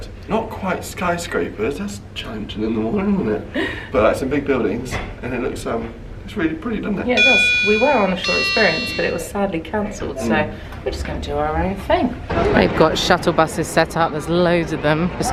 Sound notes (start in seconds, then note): 8.3 elevator dinging